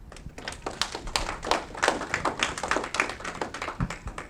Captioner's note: audience clapping